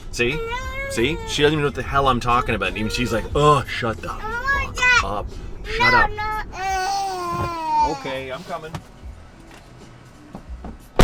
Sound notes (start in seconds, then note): 6.6 crying